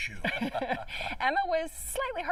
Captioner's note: laughter